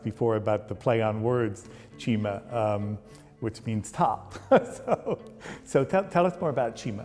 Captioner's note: laughs